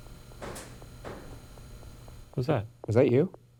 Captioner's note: ship bangs